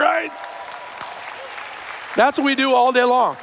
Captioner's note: cheers